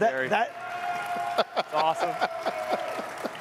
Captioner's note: audience cheering and clapping